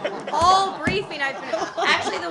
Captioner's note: laughter